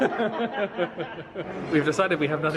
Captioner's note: laugh